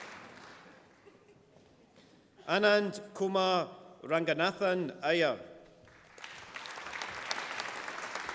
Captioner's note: applause